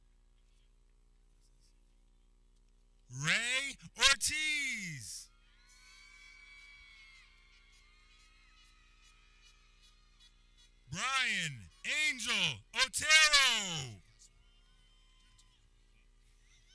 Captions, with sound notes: Ray Ortiz (people cheering) (air horn blares) Ryan Angel Otero